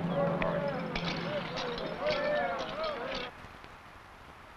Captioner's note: buckles rattling